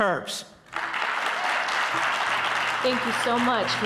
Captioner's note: audience clapping